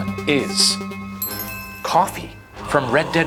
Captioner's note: bells chime